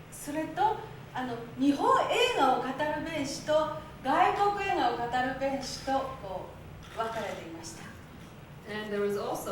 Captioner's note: speaking Japanes